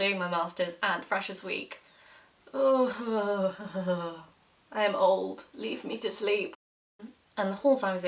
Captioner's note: groans